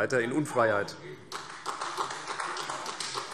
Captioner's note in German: Vereinzelter Beifall CDU